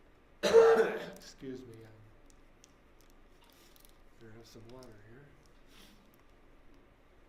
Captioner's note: coughs